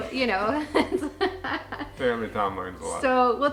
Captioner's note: laughs loudly